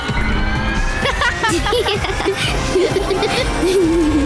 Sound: laughter

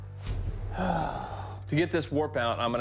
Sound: sighs

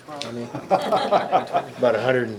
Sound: members laughing

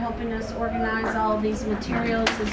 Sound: applause

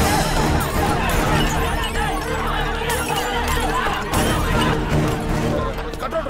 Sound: crowd screaming and instructing

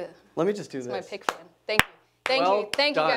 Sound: claps

